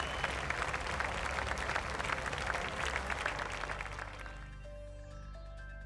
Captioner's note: audience applauding